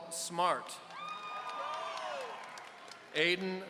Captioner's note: audience cheering